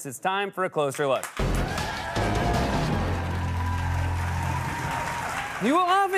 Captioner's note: cheering and applause